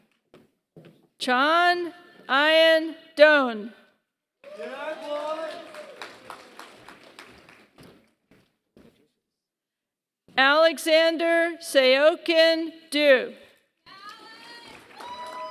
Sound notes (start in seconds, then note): 0.0 applause; 13.9 applause